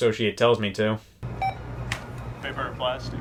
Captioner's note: scanner beeping